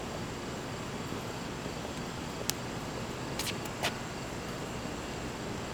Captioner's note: crickets chirping